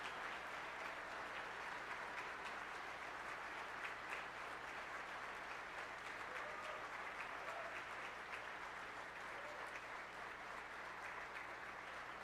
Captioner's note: applause